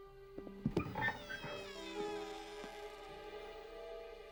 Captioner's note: door creaks